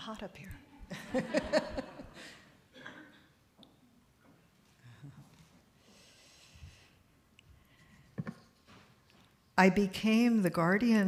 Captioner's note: laughter